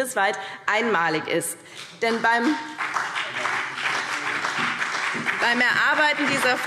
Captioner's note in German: Beifall BÜNDNIS 90/DIE GRÜNEN und vereinzelt CDU